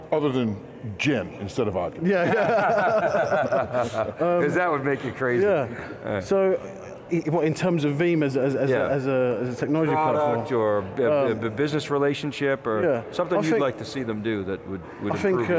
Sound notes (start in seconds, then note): 2.1 laughter